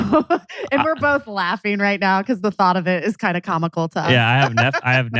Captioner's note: laughs